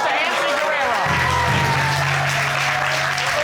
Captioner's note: audience cheers